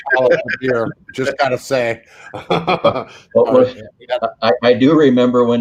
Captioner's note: laughing